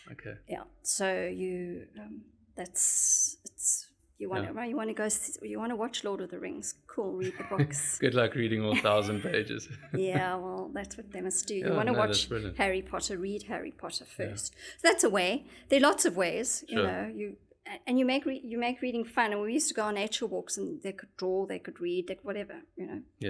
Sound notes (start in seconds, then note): 7.2 laugh